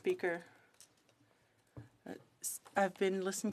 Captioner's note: speaking french